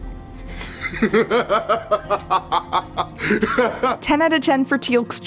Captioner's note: Teal’c laughs